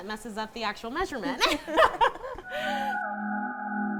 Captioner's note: laughs; musical swell